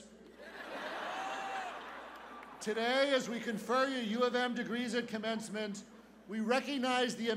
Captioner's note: laughter